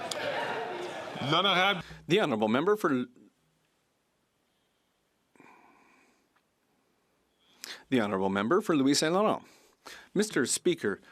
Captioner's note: some Applause